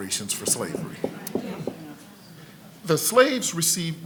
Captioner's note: congregation murmurs